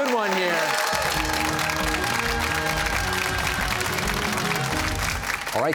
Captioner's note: cheers and applause